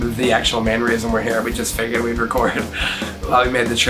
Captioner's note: laughs